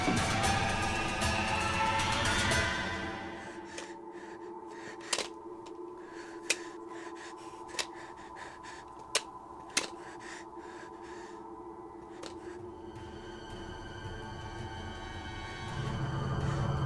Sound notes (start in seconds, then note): 0.0 dramatic music; 3.9 panicked breathing; 13.6 dramatic music